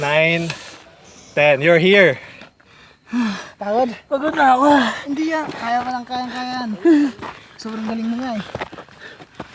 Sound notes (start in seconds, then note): 3.3 groaning; 7.1 groaning